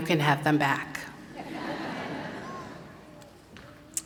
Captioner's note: laughter